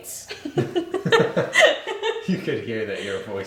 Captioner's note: laughing